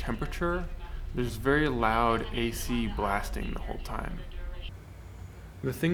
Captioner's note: loud announcements rambling